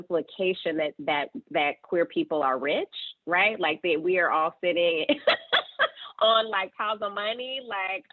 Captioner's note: laughing